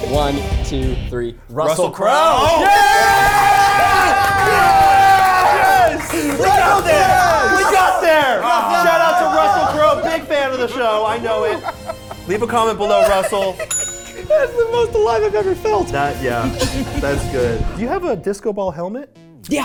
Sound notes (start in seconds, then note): 2.9 cheering; 5.0 motivational instrumental music; 11.7 people laughing; 13.3 laughing; 13.6 call bell pinging